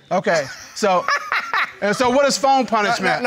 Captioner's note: laughs